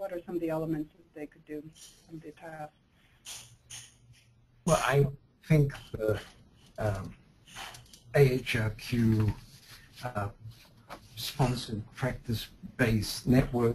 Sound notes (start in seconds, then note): 4.8 voiceover